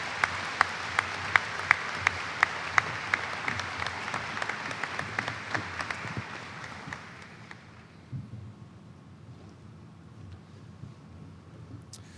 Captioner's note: applause